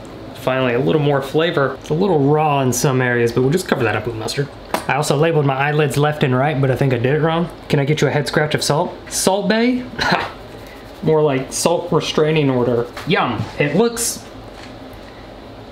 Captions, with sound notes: Finally, a little more flavor. It's a little raw in some areas but we'll just cover that up with mustard. I also labeled my eyelids left and right but I think I did it wrong. Can I get you a head scratch of salt. Salt bae? (man laughs) More like salt restraining order. Yum, it looks.